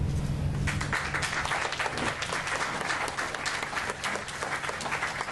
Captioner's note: applause